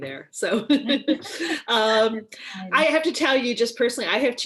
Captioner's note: laughing